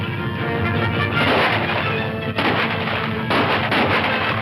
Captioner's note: guns firing